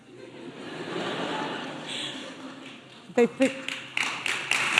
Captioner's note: audience laughing; audience applauding